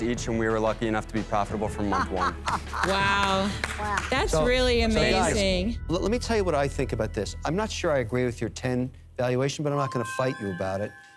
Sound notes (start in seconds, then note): 1.8 laughs